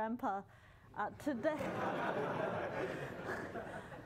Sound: laughter

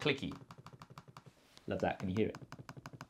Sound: trackpad clicking

